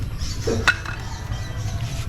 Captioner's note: item drops